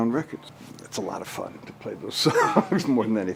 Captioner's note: laughs